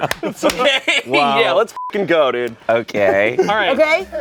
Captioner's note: beep